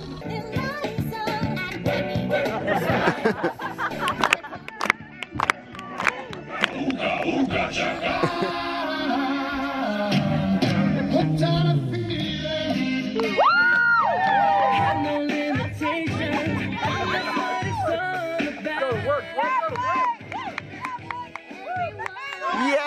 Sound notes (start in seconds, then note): 0.8 pop music; 2.3 audience laughs; 4.0 audience claps along; 13.2 audience cheers